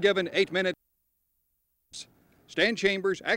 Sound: sound cuts out

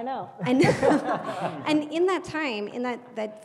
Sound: laugh

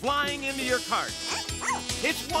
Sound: squeaking

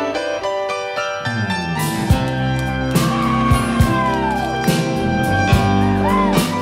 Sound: upbeat rock music continues; crowd cheering

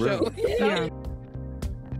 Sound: laughter

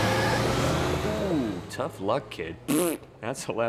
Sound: blowing raspberry

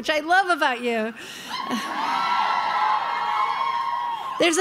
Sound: crowd cheering

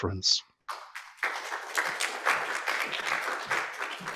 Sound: applause

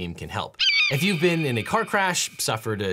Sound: eagle squawks

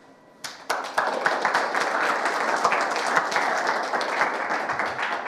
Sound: audience applauding

